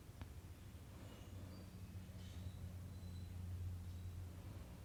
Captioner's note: cardinals chirping